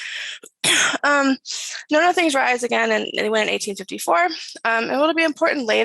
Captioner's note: coughs